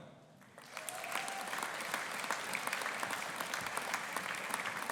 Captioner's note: audience applauding